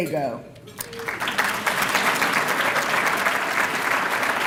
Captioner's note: applause